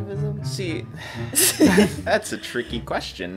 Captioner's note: laugh